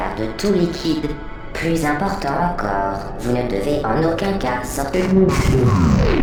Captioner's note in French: bzz